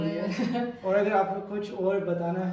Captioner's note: laughter